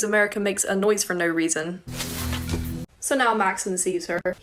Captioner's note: bushes rustle